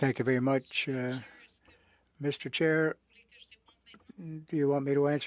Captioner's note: speaking French